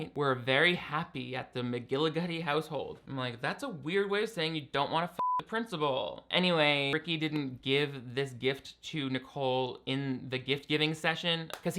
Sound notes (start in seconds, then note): 5.2 beep